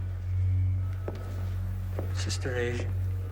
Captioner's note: eerie electronic music; footsteps clacking